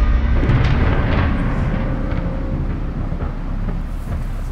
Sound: thunder cracking

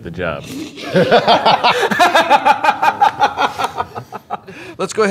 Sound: laughter

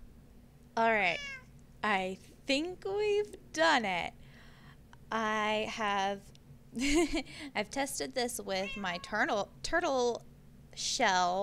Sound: giggles

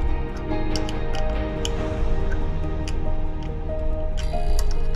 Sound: tools clattering

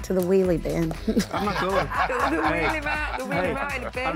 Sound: laughing

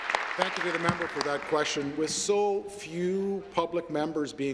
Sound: applause

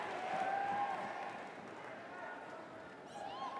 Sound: applause

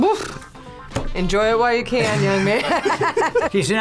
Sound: both laugh

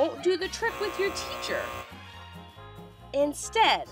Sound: buzzer chimes

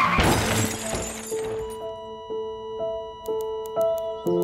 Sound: car crash; flatline

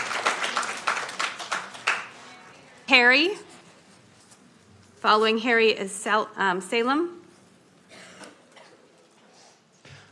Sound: applauding

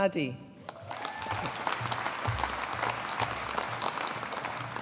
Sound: audience applauding

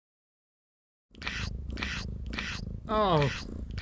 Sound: jess licking sound

